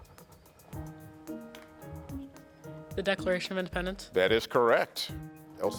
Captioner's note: teammates whispering